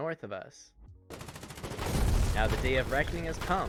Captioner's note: gunfire and explosion